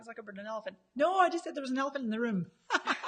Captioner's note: laughs